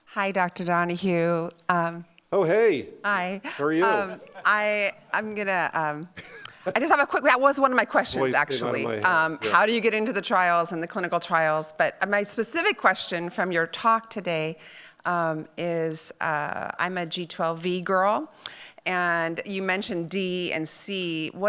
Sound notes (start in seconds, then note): 3.5 audience laughing; 6.0 laughing